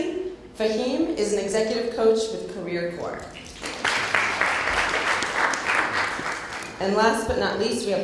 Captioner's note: applause